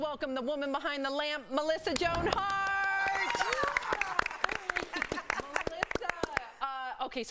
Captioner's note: applause; applause